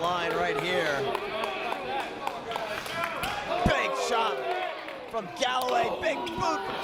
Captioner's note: applause